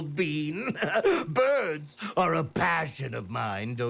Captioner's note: laughs